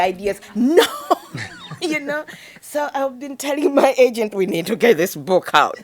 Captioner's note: laughs